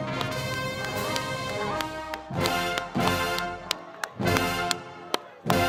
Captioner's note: cheering